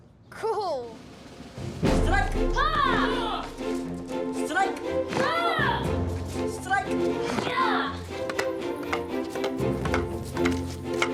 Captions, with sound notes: - Cool! - Strike! (boys yelling) Strike! (boys yelling) Strike! (boys yelling) (upbeat music)